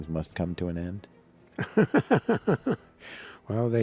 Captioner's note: laughs